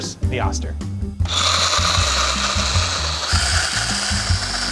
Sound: blender whirring

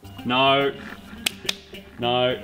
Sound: claps hands

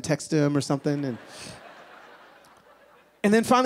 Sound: laughing

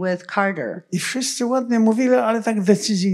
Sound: foreign language

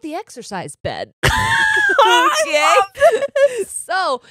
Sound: both laugh

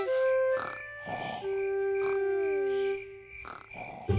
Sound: george snoring

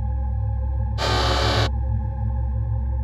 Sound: robot sound effect

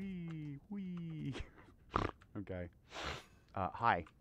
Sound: snort

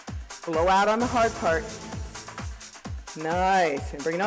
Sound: breathing; blowing

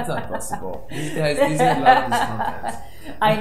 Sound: laughs

